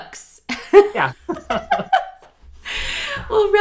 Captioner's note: laughs